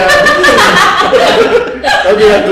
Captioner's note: laugh